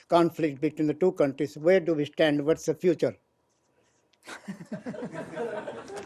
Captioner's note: laughter